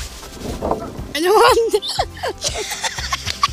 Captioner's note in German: Beide kichern